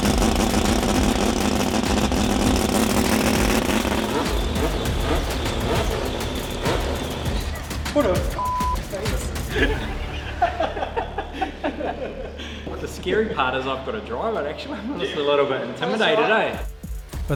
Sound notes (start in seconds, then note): 8.3 beep; 8.9 laughing